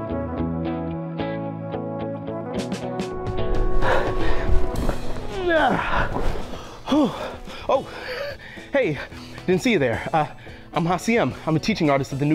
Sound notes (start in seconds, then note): 5.3 grunts